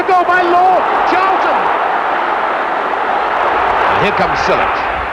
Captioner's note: crowd roaring